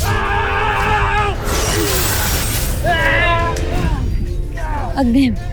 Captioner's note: grunts & groans; powerful blast-crackle; screams; growling & grunting; weapons clanging & swishing